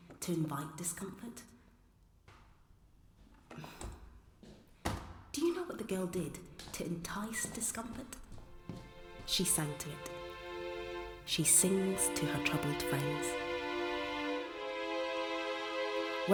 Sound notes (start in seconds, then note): 3.5 sighs; 8.2 dramatic orchestral music swells